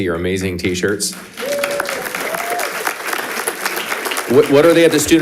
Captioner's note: audience applauding